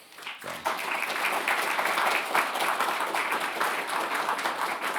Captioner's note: audience applauding